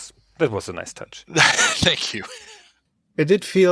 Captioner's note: laughs